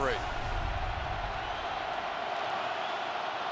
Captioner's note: crowd cheering